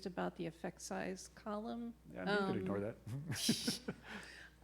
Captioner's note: laughing